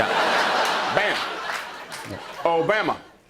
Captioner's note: laughter